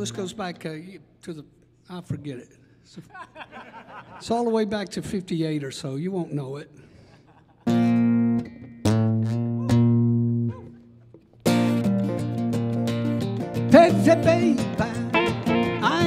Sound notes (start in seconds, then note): 3.0 audience laughing; 7.7 upbeat rock music